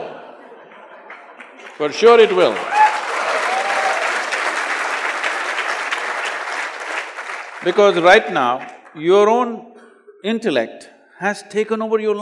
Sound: laughter/Applause

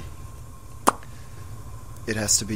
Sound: pops lips

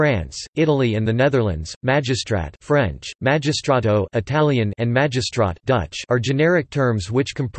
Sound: Italian

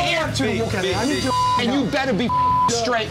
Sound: beep

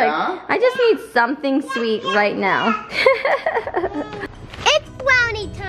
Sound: laughs

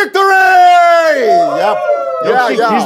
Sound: sound of cheering

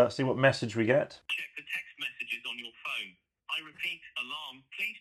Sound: phone Voice

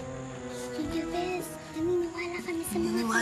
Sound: whispering

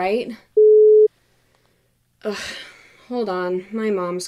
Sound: phone beep

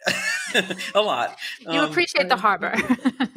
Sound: laughter

